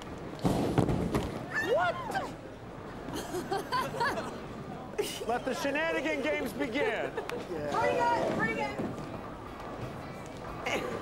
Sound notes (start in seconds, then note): 1.5 Nia squeals; 10.7 women laugh